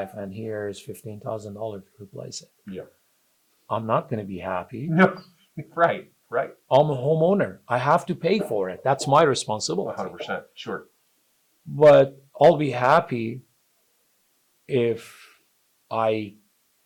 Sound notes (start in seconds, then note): 5.6 chuckles